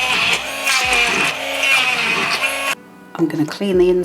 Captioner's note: blender whirring